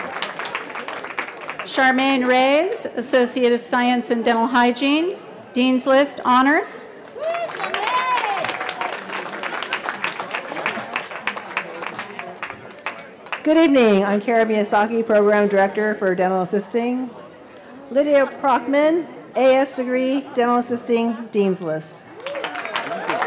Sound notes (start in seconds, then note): 7.1 cheering